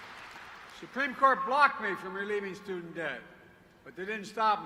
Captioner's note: applause